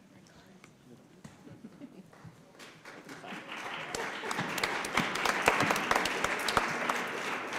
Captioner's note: applause